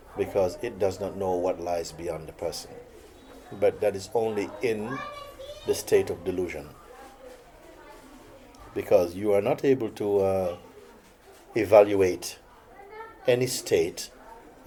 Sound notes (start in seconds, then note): none